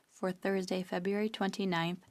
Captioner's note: speaking French